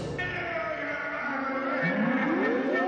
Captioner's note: voices echoing